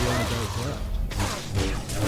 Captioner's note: gunfire